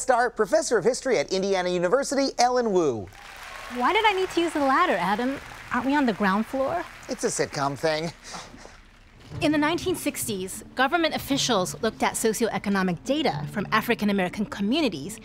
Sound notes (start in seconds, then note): 3.0 canned applause